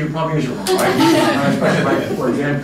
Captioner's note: laughter